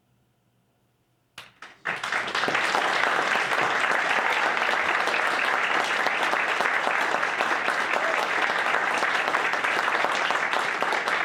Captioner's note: applause